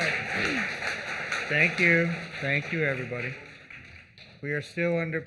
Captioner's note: applause